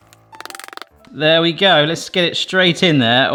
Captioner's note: hands rattle; bright instrumental music